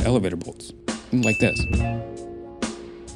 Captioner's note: glass ding